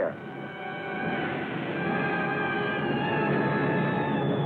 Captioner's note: explosions